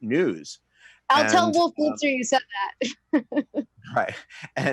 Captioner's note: chuckles